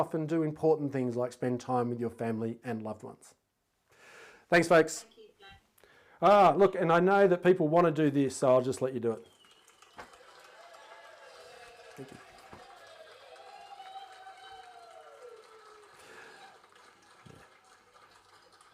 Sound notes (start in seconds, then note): 10.4 audience applauding